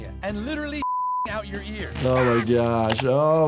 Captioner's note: beep